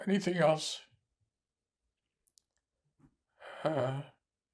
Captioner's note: pauses 10 seconds